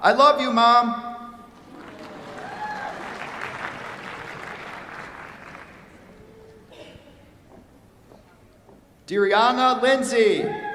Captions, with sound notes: I love you, mom. [APPLAUSE] Dariana Lindsey.